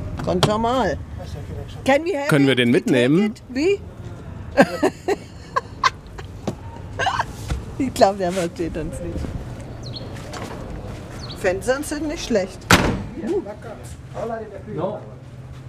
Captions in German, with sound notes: Ganz normal. (englisch:) Können wir den mitnehmen? (Lachen) (lacht:) Ich glaube, der versteht uns nicht. (Vogelzwitschern) Sind nicht schlecht ... Uh. (Sie sprechen in ihrer Sprache.)